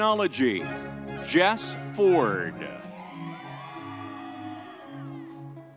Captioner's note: crowd cheering